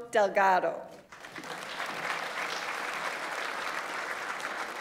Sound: audience applauds

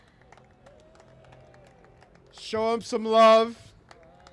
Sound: applause

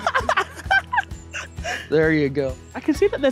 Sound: laughing

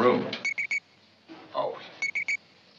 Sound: beeping

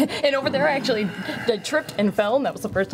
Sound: groans

